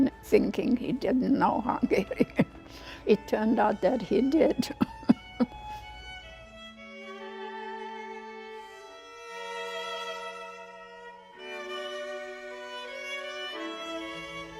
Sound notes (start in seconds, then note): 2.0 laughing; 4.5 laughing; 6.2 somber violin music